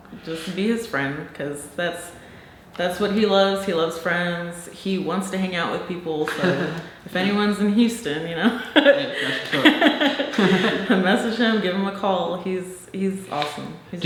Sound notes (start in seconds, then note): 8.5 both chuckling